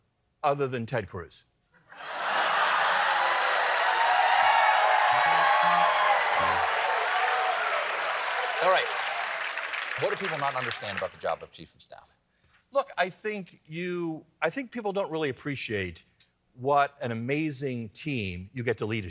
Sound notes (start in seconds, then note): 5.4 cheering